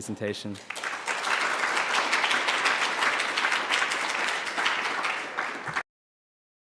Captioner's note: applause